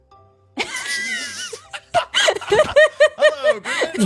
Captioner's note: both laugh